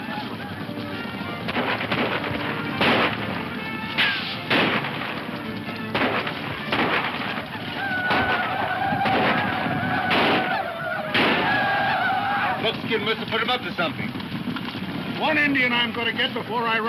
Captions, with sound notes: (guns firing) (whooping) - Buckskin musta put them up to something. - One Indian I'm gonna get before I run outta ammunition.